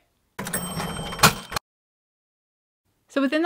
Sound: cash register ding

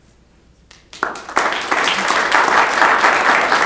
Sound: applause

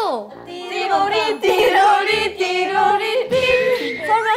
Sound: sound effects

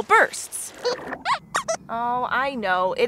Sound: squeaks squeaks

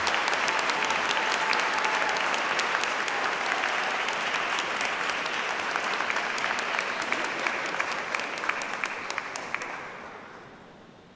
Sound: applause

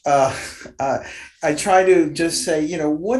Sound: chuckles

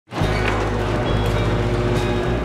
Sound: garage door opening; upbeat music

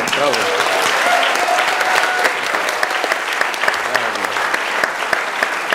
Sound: audience clapping and cheering

